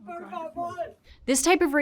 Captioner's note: speaker speaking Spanish